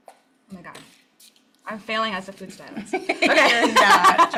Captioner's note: laughs